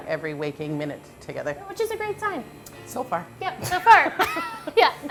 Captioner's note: laughter